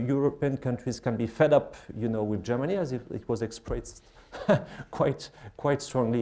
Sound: laughs

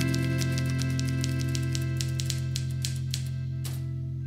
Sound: typewriter clacking; typewriter shuffles

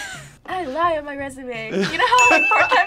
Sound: both laugh; laughs

